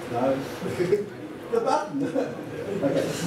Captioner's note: laughter